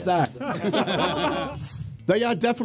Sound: laughing

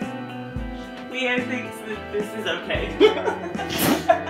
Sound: laughs

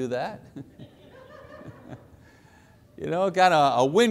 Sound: audience laughs

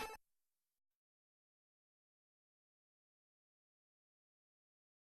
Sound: 8-bit video game music; silence

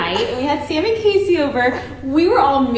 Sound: laughing

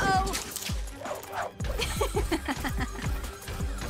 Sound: laughs

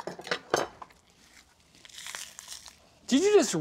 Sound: meat tearing

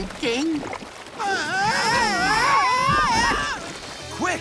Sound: screaming

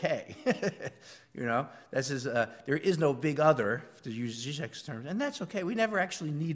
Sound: laugh

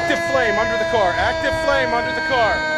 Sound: sirens

